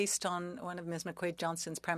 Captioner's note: speaking French